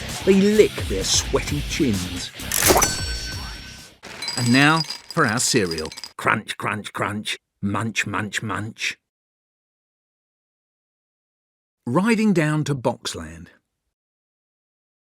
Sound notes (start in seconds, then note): 2.5 cash register noise